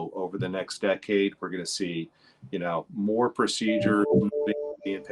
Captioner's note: computer chimes